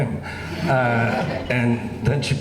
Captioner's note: laughing